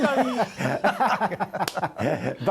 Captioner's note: laughter